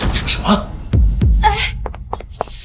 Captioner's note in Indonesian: Menghela napas